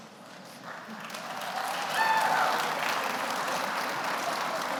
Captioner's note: audience applauds